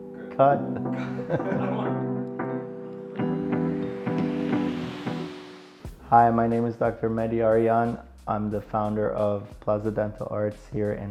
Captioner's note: laughing